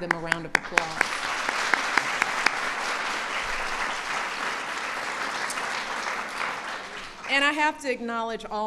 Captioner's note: applause